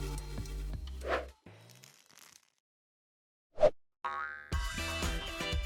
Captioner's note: graphic whooshing; planet bouncing; upbeat techno music